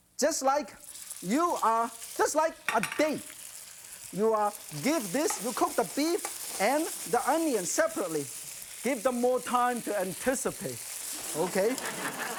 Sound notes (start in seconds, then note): 3.1 sizzling; 11.2 audience laughing